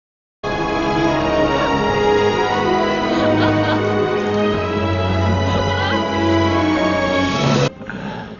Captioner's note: Sounds of heavy rain and Mulan's sobs